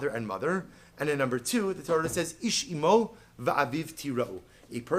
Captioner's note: Hebrew